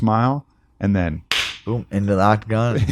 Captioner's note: claps